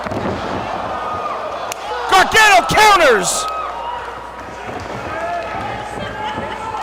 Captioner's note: applause